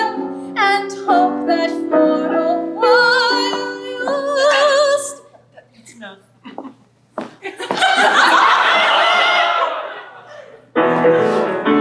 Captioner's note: laughter